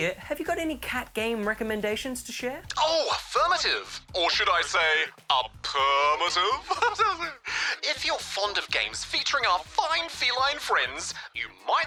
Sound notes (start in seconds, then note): 5.7 chuckles